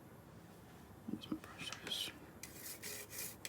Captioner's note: whispers